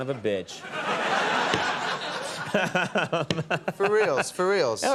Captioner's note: audience laughing